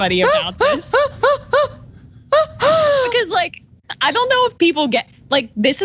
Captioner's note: laugh